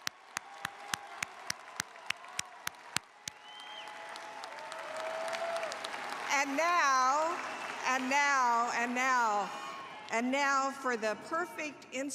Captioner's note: cheers and applause